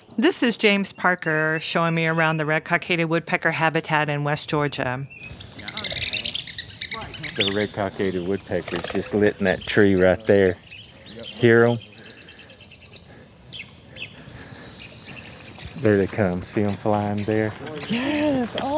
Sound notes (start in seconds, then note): 4.7 woodpecker calls